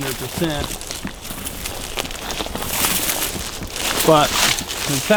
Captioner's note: leaves crunch